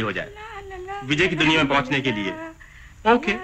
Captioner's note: Humming